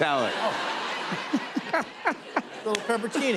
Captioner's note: laughter